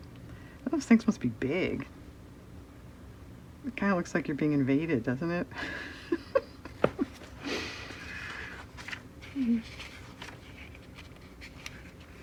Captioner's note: laughs